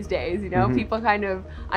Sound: hums agreeingly

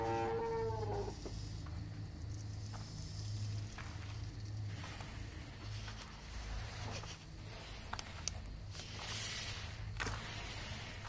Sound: heavy monstrous Breathing

